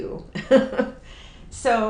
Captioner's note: chuckles